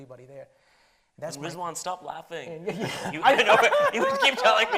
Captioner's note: laughs